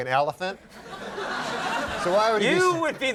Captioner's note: audience laughing